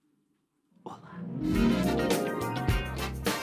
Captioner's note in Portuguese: sussurrando